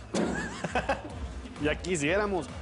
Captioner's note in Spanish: Risas